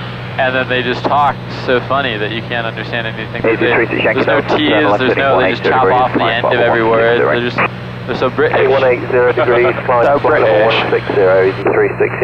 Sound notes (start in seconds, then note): 9.7 laughing; 10.9 with British accent